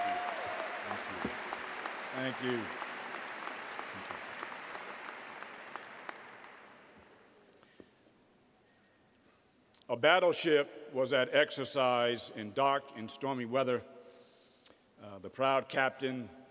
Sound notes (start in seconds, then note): 3.8 applause